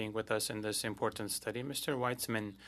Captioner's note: speaking French